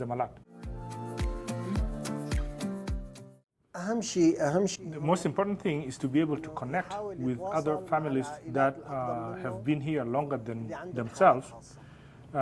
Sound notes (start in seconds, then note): 4.0 speaking Arabic